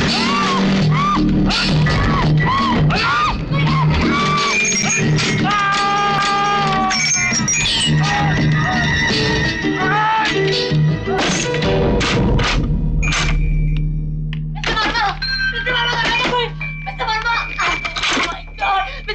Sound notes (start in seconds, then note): 0.0 screams; 5.3 groans; 13.0 door latched; 17.0 door knocks and bell rings